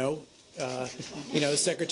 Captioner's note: laughter